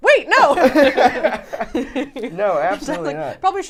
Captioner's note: all laughing